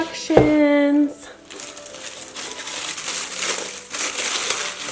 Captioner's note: paper rustling